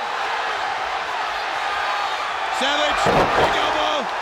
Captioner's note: audience cheers